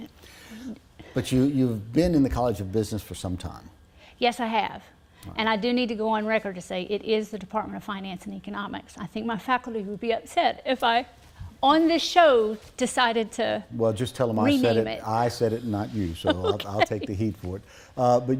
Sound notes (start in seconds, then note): 16.1 laughs